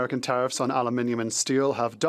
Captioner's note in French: voix de l'interprète